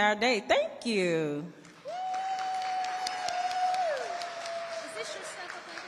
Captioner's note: audience applauding and cheering